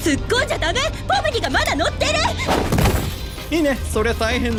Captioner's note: crash!